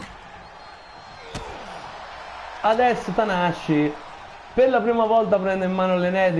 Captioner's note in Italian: Applauso